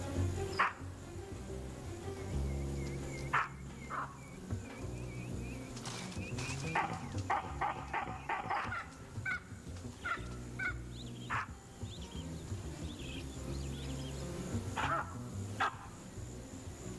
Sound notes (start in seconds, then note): 2.3 barks; 9.4 barking